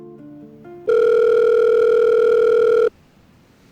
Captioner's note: phone Rings